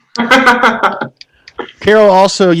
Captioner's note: laughing